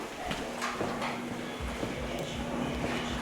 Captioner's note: footsteps